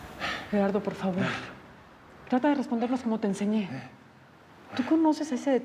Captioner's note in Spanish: Gerardo jadea